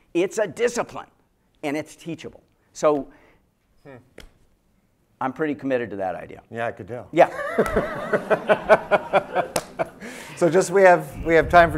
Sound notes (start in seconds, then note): 7.2 laughter